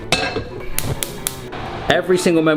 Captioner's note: pot clanking; burner clicking